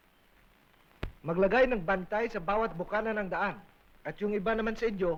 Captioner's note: non-english speech